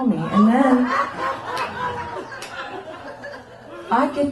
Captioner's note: laughter